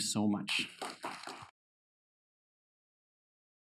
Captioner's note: applause